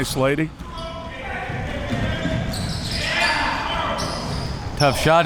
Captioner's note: audience chattering and yelling